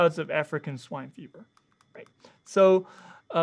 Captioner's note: mouse clicking